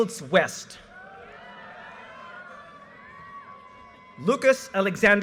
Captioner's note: audience cheers and applause